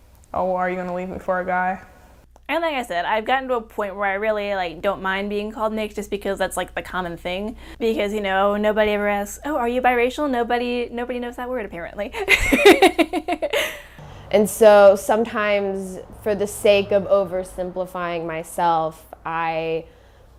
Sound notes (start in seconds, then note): 12.2 laughing